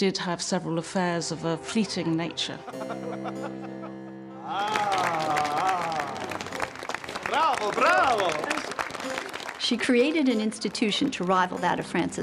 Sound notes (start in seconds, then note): 4.4 <i> audience applauding</i>